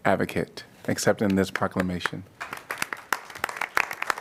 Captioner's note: applause